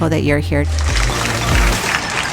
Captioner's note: audience applauding; upbeat music